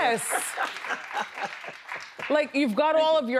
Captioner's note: laughs